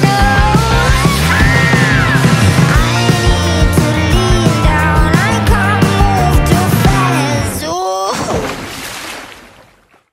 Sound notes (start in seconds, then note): 0.8 giggles; 7.9 water splash